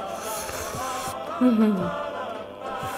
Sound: slurping~

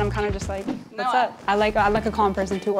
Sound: whooshing

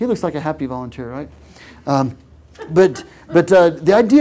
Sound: laugh

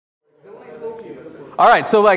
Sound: audience chattering

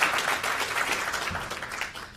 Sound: applause

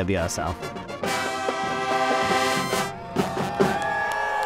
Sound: marching band playing; people cheering

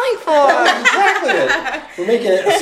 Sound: woman laughing

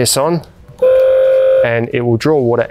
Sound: tap buzzing

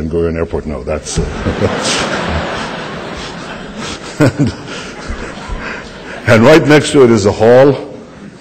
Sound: laughter

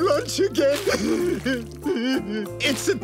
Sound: sobbing

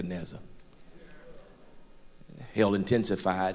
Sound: crowd agreement

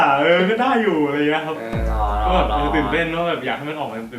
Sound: sarcastically

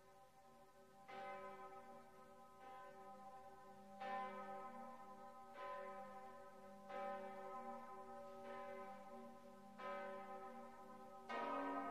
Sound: church bells ring

